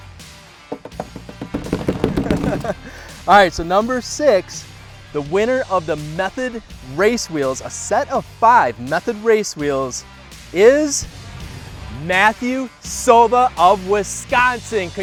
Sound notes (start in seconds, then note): 0.6 knocks on bin; 0.6 bangs on bin; 2.6 laughs